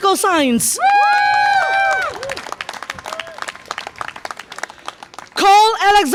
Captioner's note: audience applause and cheer